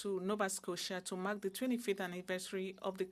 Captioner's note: speaking French